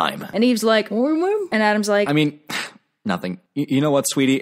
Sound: cough

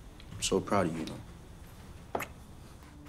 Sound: kissing sound

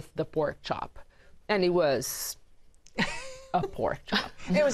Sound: laughter

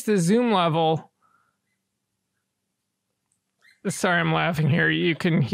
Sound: squeak, squeak

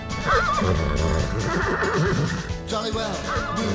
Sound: nickering

